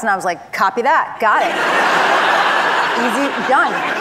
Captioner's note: audience laugh